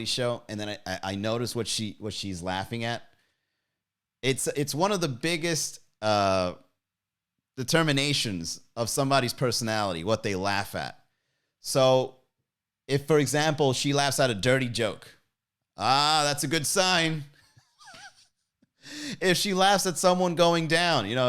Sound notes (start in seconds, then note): 17.5 laughs